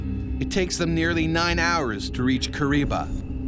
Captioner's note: voiceover